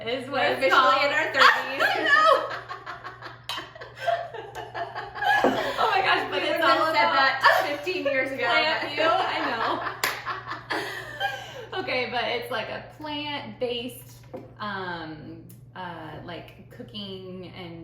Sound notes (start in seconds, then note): 1.5 laughter